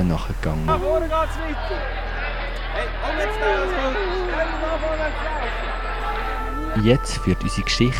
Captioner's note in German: Rufen der Händler am Markt